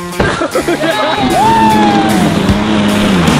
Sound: laughs

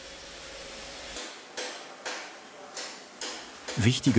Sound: hammering

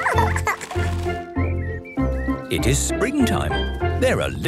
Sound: laughing; birdsong

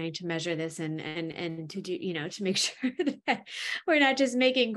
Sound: chuckles

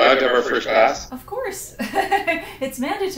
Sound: laughs

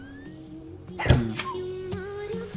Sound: dog whimpering; door closing

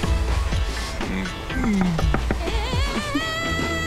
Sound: door knocking

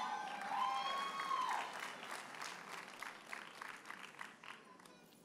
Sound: audience cheers and applauds

